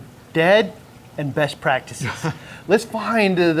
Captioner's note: chuckles